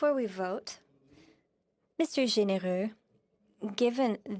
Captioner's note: speaking French